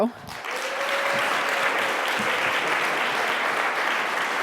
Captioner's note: audience applauding